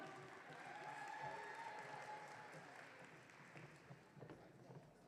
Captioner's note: audience cheering